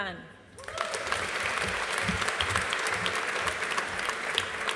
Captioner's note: audience applauding